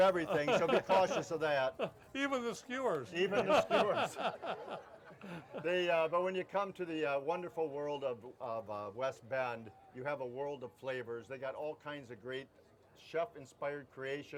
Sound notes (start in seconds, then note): 3.1 laughs